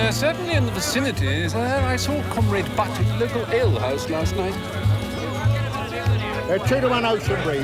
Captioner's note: none